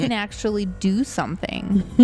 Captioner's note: laughs